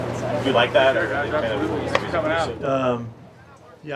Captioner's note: murmurs